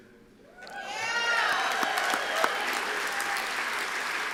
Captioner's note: cheers